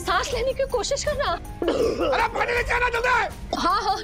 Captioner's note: coughs